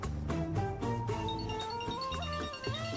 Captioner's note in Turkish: Telefon zili sesi